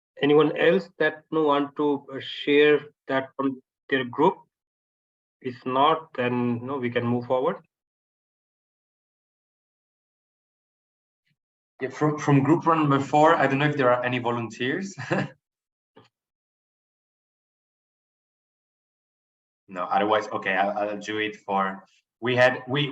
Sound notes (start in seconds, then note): 15.0 chuckles